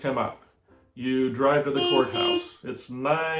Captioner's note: car honking